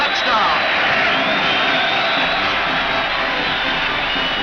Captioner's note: crowd cheers; upbeat band music